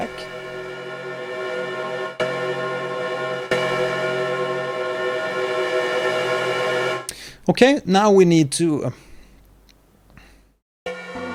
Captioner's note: granular playback - metallic sound